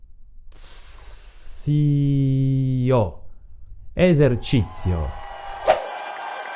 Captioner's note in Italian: applauso